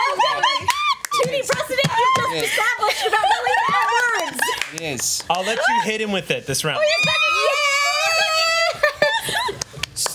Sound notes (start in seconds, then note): 0.0 group cheers; 1.7 cheers talks over each other excitedly; 6.8 group cheers